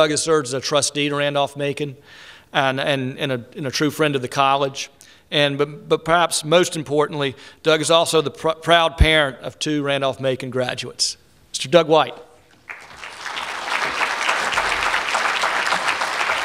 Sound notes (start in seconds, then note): 12.6 applause